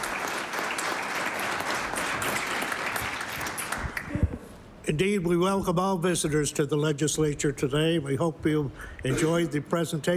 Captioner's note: applause